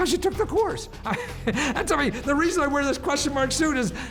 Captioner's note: laughs